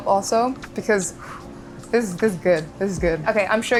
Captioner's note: blowing